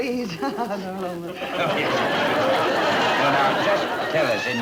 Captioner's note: audience laughter